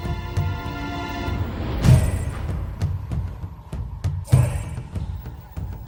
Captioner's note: intense music; chanting